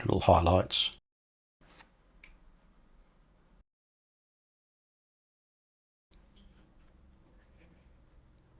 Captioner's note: silence